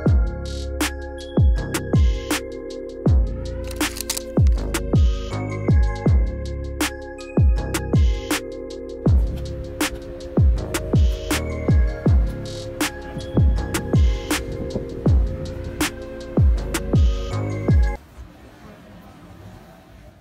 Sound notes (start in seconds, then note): 0.2 upbeat music; 3.6 shutter clicks; 5.2 upbeat music